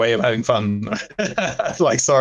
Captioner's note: laughs